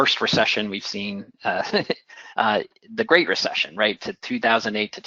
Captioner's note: laugh